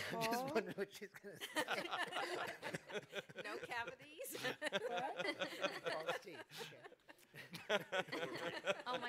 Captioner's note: laughter; laughter